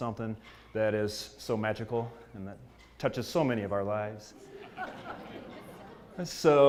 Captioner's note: laugh